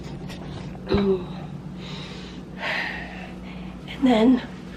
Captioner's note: breathing heavily